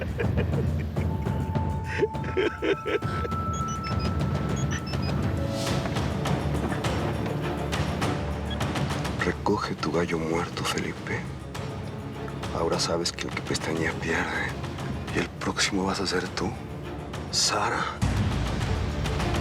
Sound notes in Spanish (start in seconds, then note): 5.9 suena un celular; 9.5 lee en voz alta